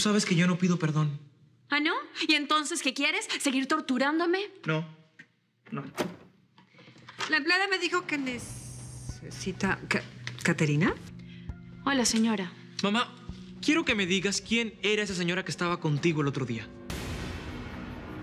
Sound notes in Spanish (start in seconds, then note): 5.7 Sonido al abrir la puerta